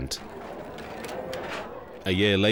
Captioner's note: camera shutters clicking